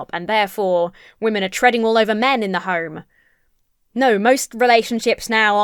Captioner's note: none